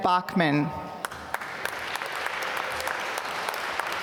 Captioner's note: applause